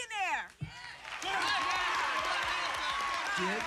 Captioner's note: cheers